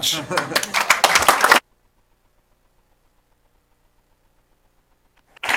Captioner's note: applause